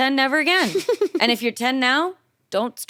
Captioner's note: chuckles